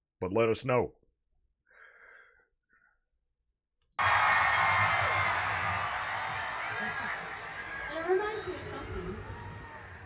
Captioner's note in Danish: Bifald